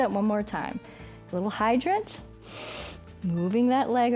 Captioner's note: inhales